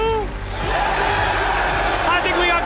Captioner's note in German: Jubel